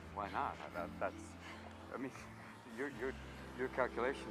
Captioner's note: stammering